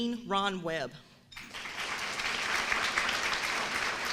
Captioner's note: applauses